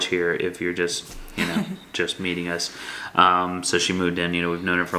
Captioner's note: laughs